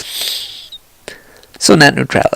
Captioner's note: phew